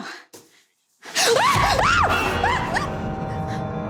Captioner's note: screaming